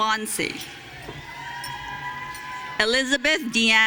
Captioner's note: audience cheering